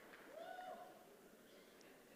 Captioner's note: applause